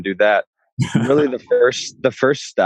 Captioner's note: laughs